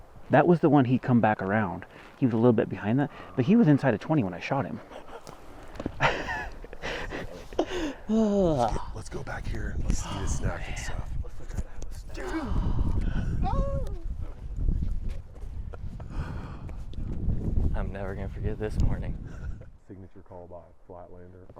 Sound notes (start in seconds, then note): 4.7 laughing